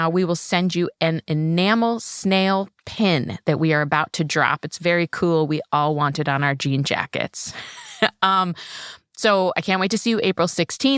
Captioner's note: laughs